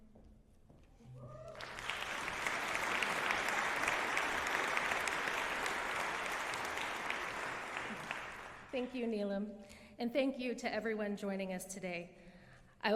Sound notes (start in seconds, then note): 1.4 applause